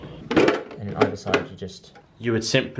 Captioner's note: plastic clicking